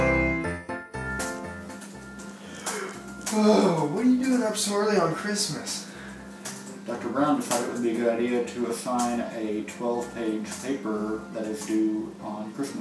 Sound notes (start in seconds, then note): 1.1 music fades; 3.3 yawns and stretches